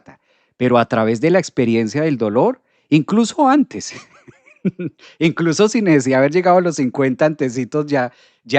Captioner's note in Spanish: risas